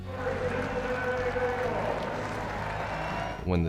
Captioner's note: crowd cheering